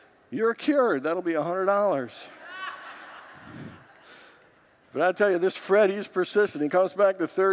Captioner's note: congregants laugh